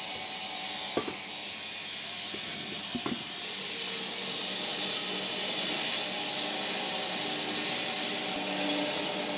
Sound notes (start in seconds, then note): 0.0 woodcutting machine hissing continues